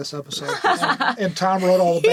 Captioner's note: laughing